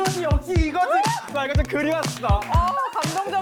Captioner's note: melted teen heart sound effect